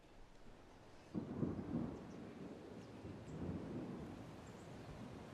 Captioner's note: thunder rumbling